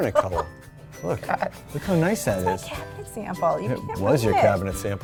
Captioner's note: laughs